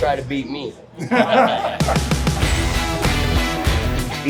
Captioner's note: laughter